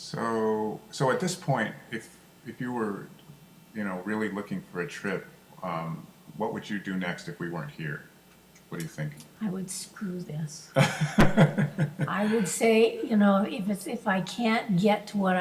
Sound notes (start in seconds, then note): 9.8 voiceover; 10.7 laughs